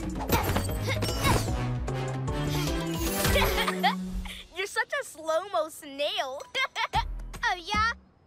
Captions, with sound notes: (Laughter) You're such a slo-mo snail. - (Laughter) - Oh, yeah?